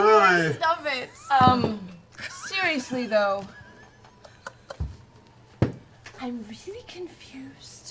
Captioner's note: quietly